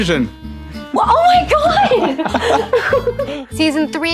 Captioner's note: laughs